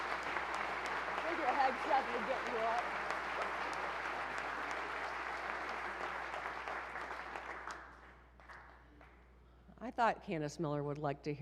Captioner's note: applause